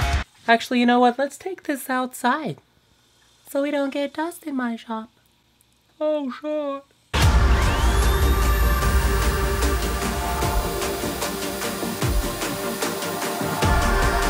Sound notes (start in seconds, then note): 7.0 dun; 7.5 REEEEEEEEEE goes the belt sander